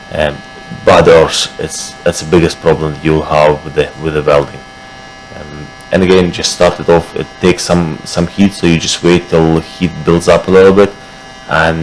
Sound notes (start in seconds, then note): 4.5 buzzing